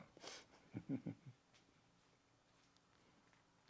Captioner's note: laughing